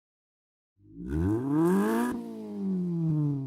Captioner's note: engine revs